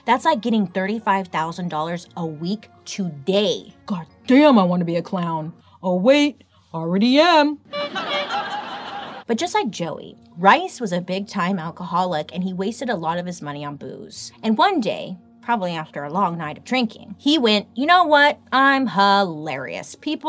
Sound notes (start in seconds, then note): 7.6 clown horn honks; 7.7 fake audience laughs